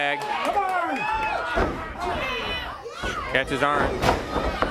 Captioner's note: crowd cheering